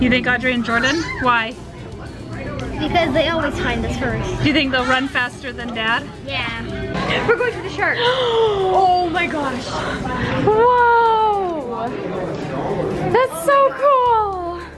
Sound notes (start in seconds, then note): 8.0 gasping